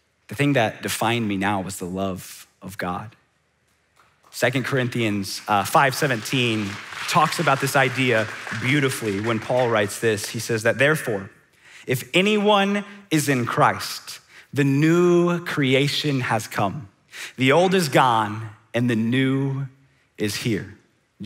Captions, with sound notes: The thing that defined me now was the love of God. (audience applauding) 2 Corinthians 5:17 talks about this idea beautifully when Paul writes this. He says that, "Therefore, if anyone is in Christ, "the new creation has come: "The old uis gone and the new is here!"